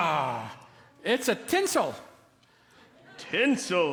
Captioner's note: laughter